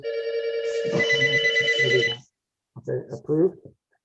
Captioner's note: phone rings